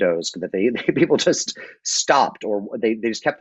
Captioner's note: laughs